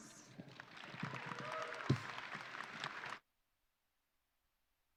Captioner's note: audience cheering